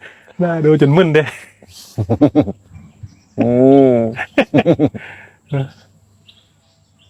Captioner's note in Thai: เสียงหัวเราะ